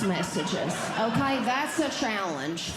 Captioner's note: audience Laughing